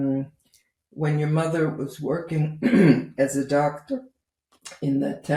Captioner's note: clears throat